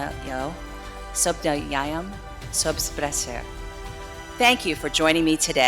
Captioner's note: continue greetings in foreign language